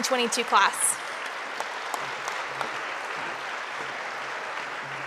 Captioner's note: audience applauding